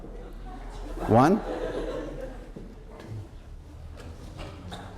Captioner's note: laughter